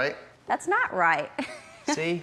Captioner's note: chuckling